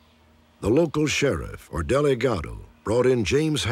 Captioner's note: spanish